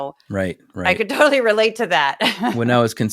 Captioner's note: laugh